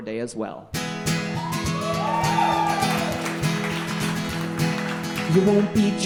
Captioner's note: guitar strumming; audience cheering